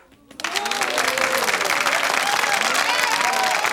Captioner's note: crowd cheering